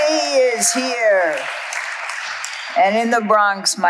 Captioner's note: audience applauding